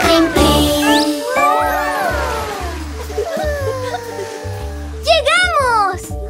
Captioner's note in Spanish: Risas